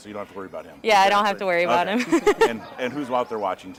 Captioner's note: laughing